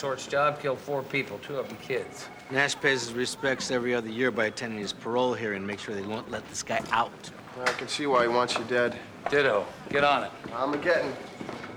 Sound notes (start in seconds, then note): none